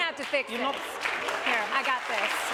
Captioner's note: applause